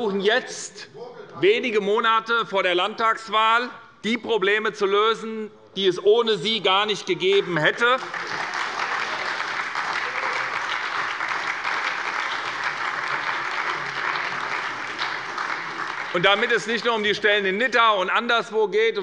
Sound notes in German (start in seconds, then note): 7.2 Beifall bei der SPD und bei Abgeordneten der LINKEN